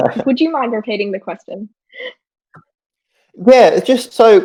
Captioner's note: laughing; laughs